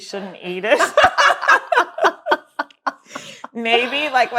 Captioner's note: laughs